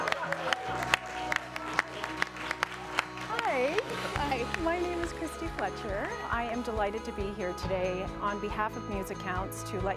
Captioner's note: cheering and Applause